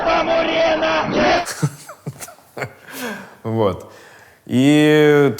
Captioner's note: laughs